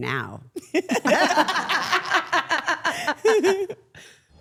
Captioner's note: everyone laughing